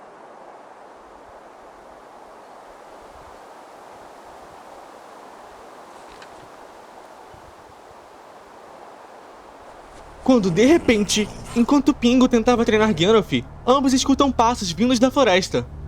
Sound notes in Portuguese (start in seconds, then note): 0.1 Sons ambiente de vento; 9.8 Sons de passos na grama